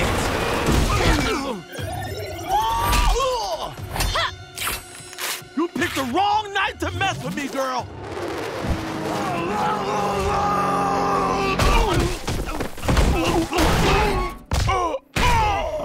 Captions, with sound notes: [grunting] You picked the wrong night to mess with me, girl. [screaming] [groaning]